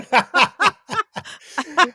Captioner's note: laughter